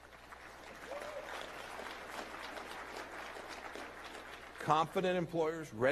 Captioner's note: applause